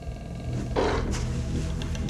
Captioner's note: animal growls